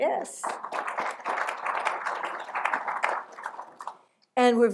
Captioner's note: applause